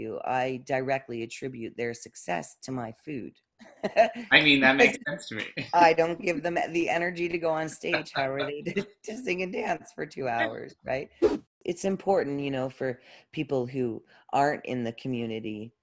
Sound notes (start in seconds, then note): 4.3 laughs; 11.2 whoosh